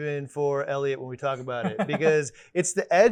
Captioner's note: laughs